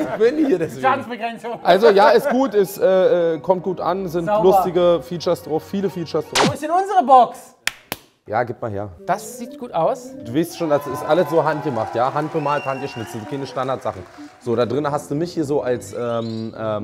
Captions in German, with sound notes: Ich bin hier deswegen. - Schadensbegrenzung. Ja, ist gut, kommt gut an, sind lustige Features drauf. Viele Features. - Wo ist unsere Box? Ja, gib mal her. - Das sieht gut aus. Ihr wisst schon, das ist alles handgemacht. (Jubel) Handbemalt, handgeschnitzt. Da drinnen hast du mich so als ...